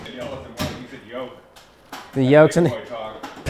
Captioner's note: door thudding